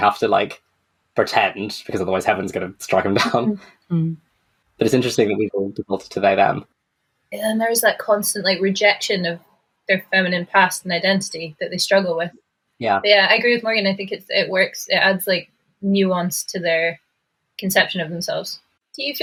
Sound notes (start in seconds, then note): 2.6 laughs